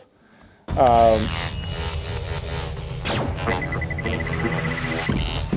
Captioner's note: electronic crackling